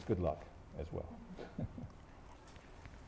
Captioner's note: laughs